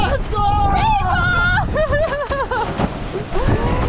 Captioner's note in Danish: laughing